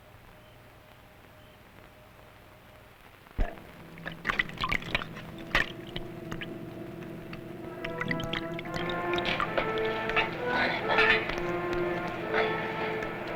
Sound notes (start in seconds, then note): 3.6 splashing; 7.1 intriguing music